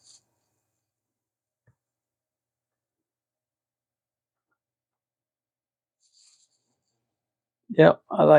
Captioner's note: silence